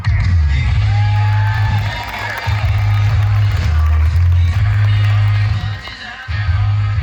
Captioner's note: upbeat music; audience applauding and cheering